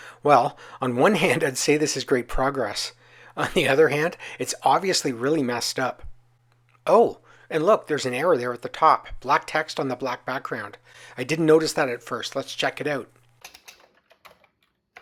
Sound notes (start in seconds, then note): 3.5 laughing